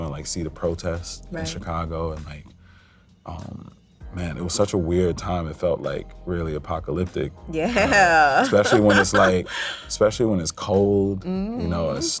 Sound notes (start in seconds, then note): 7.6 laughs